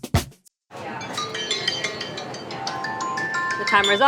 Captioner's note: bright upbeat music; phone rings